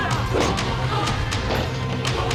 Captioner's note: thuds